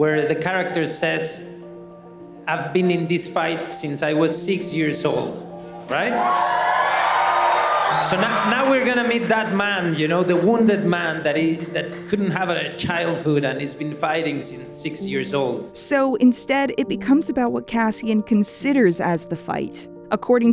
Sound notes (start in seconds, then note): 5.7 audience cheering